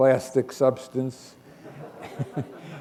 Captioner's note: chuckle